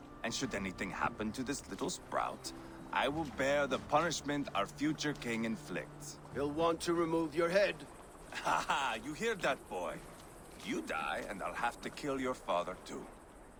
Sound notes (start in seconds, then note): 8.3 laugh